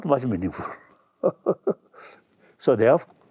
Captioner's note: laughs